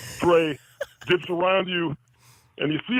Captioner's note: laughs